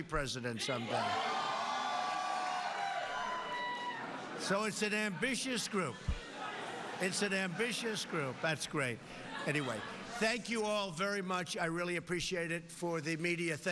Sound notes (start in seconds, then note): 3.7 cheers